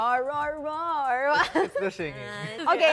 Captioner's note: laughs